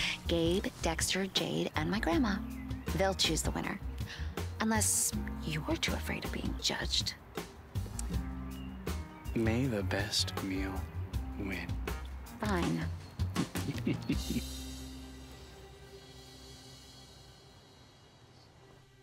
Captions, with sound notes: Gabe, Dexter, Jade, and my grandma. They'll choose the winner. Unless you're too afraid of being judged? - May the best meal win. - Fine. (chuckling)